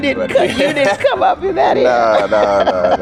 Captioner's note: laughing